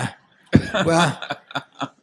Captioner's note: laughter